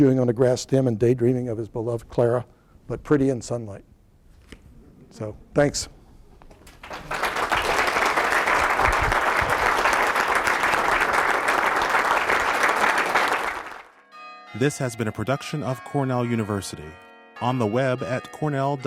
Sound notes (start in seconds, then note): 5.6 applause; 5.8 bells ringing